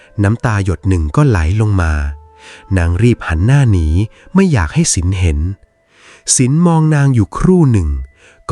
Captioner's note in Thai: เสียงสูดหายใจ